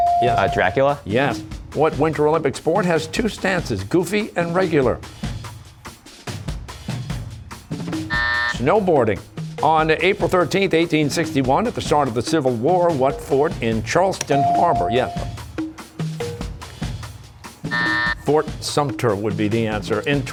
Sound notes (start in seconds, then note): 8.1 buzzer; 17.6 buzzer